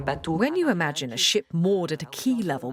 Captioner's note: voiceover